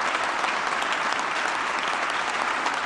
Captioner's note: applause